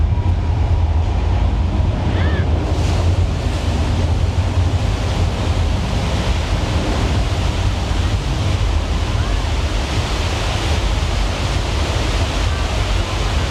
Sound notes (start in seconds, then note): 0.3 building rumbles; 3.3 flood water whooshes